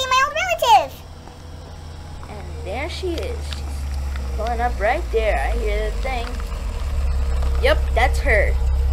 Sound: car pulling up

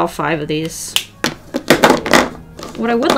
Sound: markers bang on desk

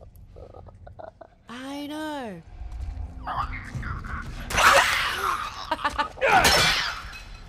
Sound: laugh

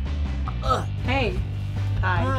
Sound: gagging

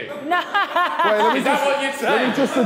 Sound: woman laughing

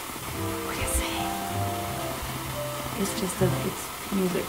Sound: whispering

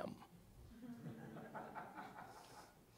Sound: laughter

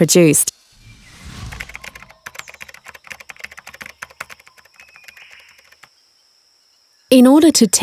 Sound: keyboard tapping

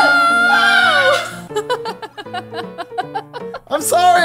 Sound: laughing

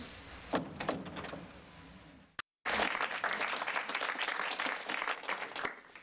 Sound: door closes

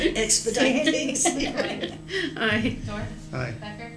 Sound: laughter

